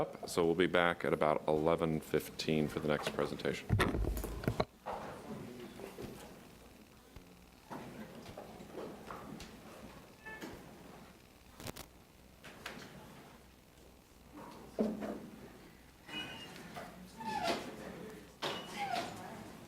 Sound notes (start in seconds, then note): 4.2 clattering